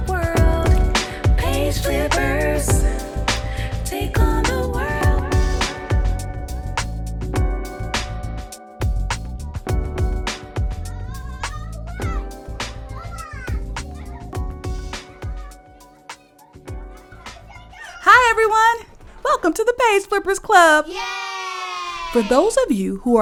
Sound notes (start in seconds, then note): 0.2 theme song fades into the sounds of kids playing; 16.3 kids cheer